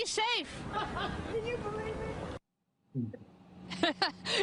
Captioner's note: laughs